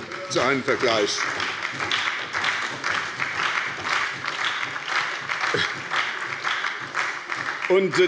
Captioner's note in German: Beifall bei der SPD